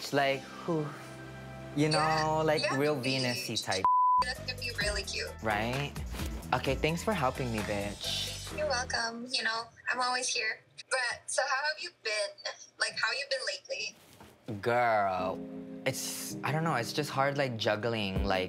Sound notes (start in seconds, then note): 0.5 sighs; 3.8 beep sound; 7.7 beep sound